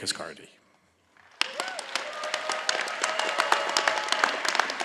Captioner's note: all applauding